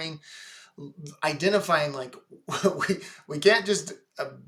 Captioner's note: laughs